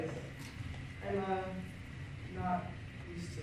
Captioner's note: none